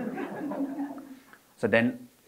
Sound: audience laughing

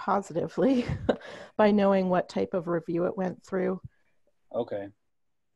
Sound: laughs

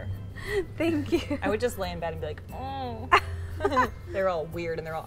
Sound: laughs; laughter

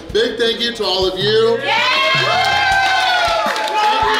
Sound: crowd cheering and applauding

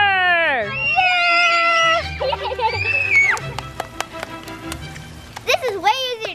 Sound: kids screaming

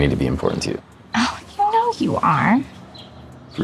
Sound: scoffs

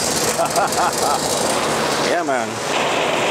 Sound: laughing

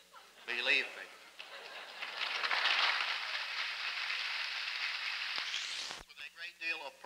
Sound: laughter, applause

